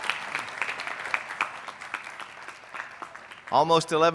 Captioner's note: cheers